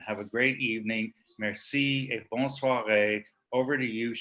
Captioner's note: speaking French